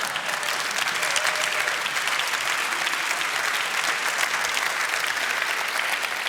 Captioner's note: applause